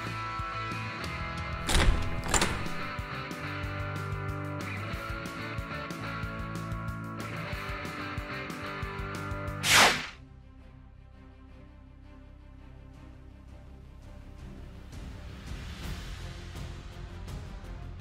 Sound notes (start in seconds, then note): 1.6 door opens; 9.6 electric sound; 12.1 dramatic music